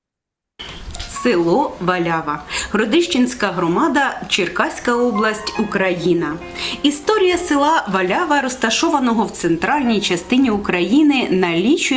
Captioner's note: foreign Language